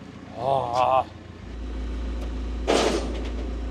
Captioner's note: groans; metal clangs; engine rumbling